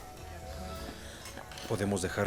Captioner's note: Esperanza suspira